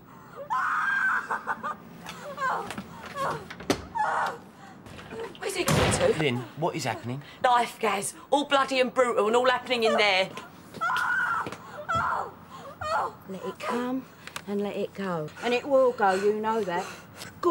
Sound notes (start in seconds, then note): 0.3 Sonia screams; 2.2 Sonia groaning; 10.8 Sonia screaming